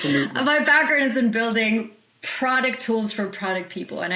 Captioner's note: laughs